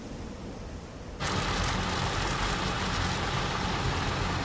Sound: engine running

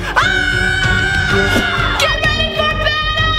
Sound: zapping; screaming

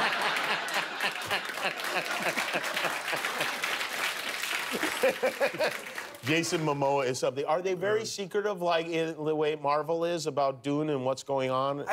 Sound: laughter

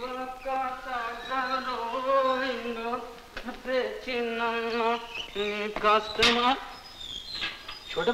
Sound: humming a song

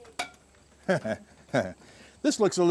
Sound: chuckles

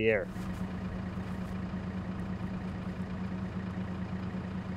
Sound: forklift engine roaring

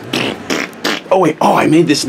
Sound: farting sounds

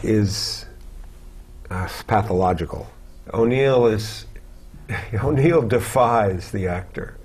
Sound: laugh

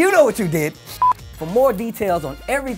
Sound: beep

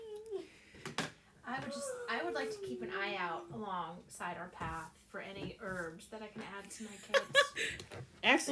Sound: laughter

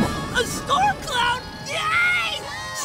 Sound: screams

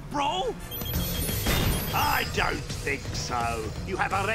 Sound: device blipping

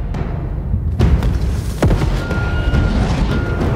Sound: volcanic rumble

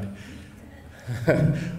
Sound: chuckling

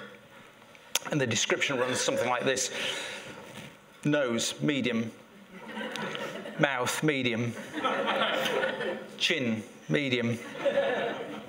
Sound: laughter

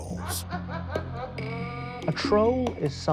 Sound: sinister laugh

